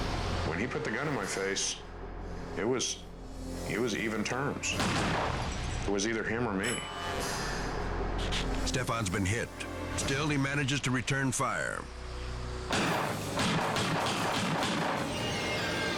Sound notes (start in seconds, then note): 4.7 gunshot firing; 12.7 gunshots firing